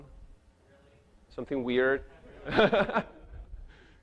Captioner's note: chuckles